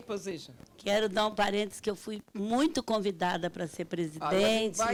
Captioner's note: speaking Portuguese